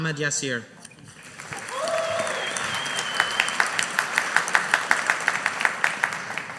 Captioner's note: audience applauding